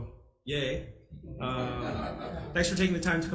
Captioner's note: people chuckle